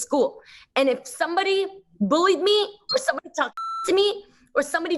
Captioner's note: beep